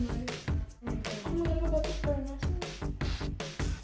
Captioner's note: chatter